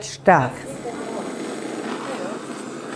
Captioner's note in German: Zischen